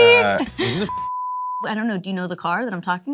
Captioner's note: beeping